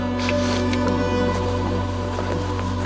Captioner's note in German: Schniefen